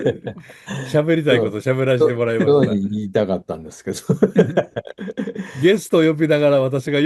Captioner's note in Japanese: 笑い; 笑い